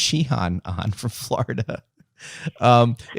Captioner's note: laughter